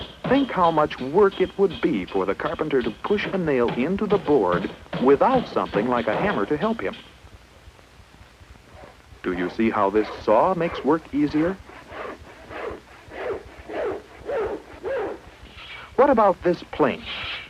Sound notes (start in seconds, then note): 12.0 sawing noises